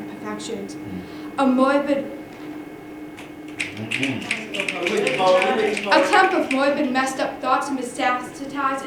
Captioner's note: applause